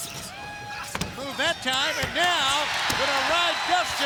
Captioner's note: crowd cheering